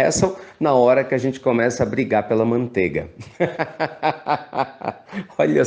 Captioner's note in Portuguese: risos